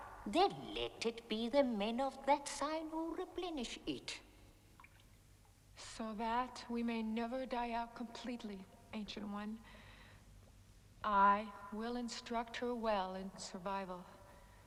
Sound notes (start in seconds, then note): none